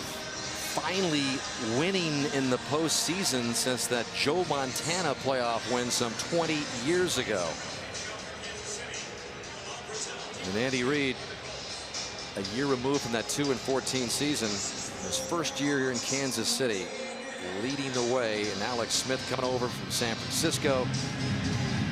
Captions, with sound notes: here of finally winning in the postseason since that Joe Montana playoff win some 20 years ago. [pa announcement] And Andy Reid, a year removed from that 2 and 14 season, his first year here in Kansas City leading the way. And Alex Smith coming over from San Francisco.